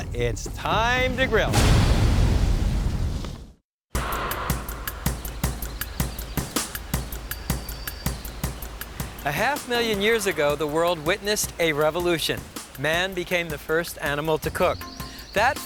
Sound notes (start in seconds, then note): 3.8 birds chirping; 3.8 upbeat music